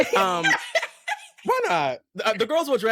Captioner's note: laughter